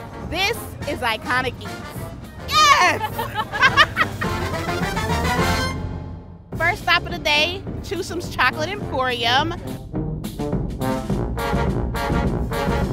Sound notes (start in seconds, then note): 2.5 both laughing; 9.6 instrumental music